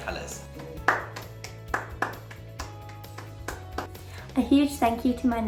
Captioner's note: woman clapping